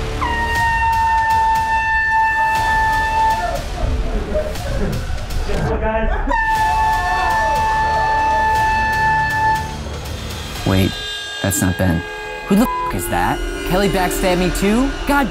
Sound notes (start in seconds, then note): 0.0 air horn shrieking; 3.7 men shouting